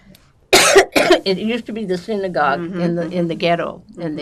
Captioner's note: coughing